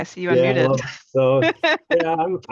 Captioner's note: laughs